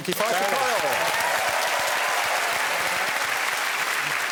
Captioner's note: cheering and applause